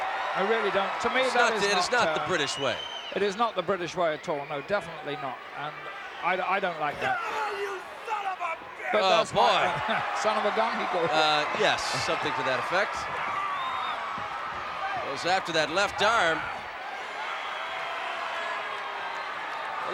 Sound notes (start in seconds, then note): 11.2 laugh